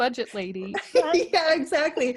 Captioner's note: laughing